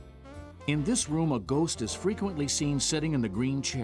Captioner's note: voiceover